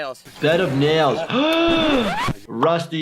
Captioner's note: gasps